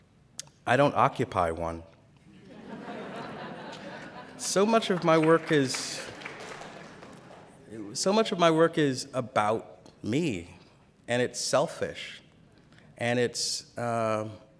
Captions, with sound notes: I don't occupy one. [Laughter] So much of my work is So much of my work is about me and it's selfish and it's